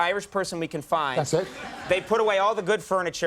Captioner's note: audience laughing